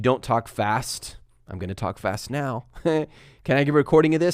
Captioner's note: chuckles